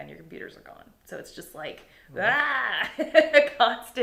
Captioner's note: laughing